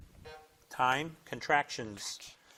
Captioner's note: buzzer blips